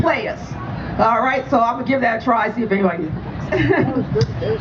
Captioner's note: laughs